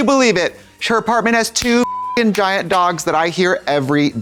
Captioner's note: beep